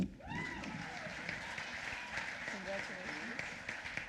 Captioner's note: applause